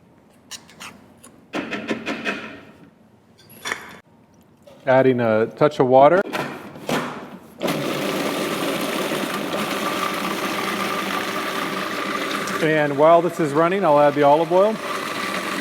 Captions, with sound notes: Adding a touch of water. [Blender machine going] While this is running, I'll add the olive oil.